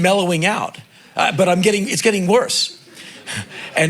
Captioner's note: crowd laughing